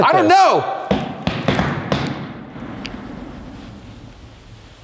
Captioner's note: stomping